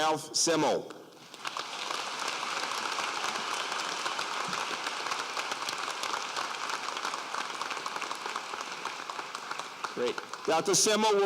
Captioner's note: applause